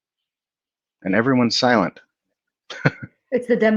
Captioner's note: chuckles